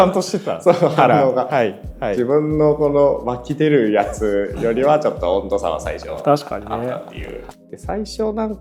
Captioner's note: laughs